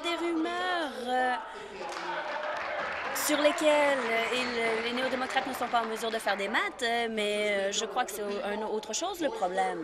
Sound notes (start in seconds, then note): 1.7 applause